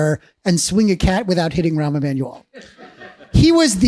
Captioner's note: laughs